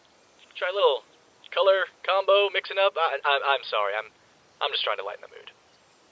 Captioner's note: stutters